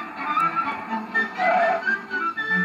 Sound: Screech

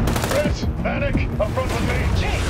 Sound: none

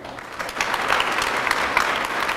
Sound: applause

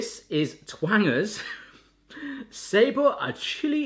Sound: laughs

